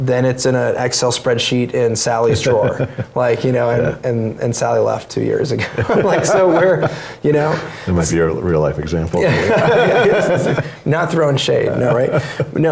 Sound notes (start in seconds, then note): 5.6 laugh; 9.2 laugh